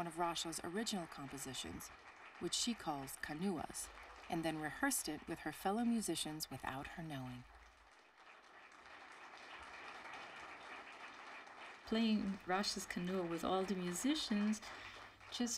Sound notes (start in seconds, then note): 8.3 applause